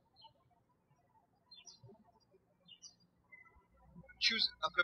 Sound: birds chirping

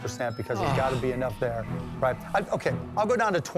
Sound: groans

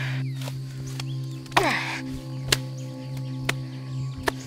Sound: grunting

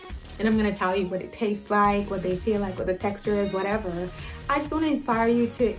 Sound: none

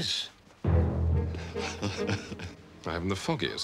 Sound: nervous laugh

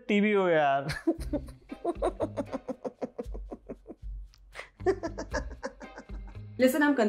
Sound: laughter

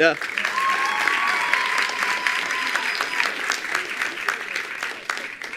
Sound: attendees applauding

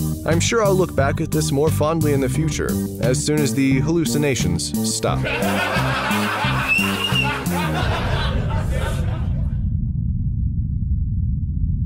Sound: laugh track

